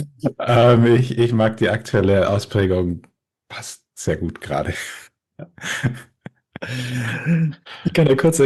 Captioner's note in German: gelächter